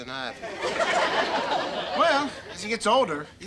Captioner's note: audience laughter